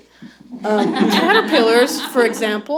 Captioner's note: laughter